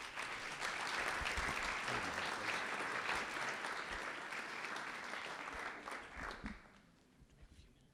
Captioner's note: applause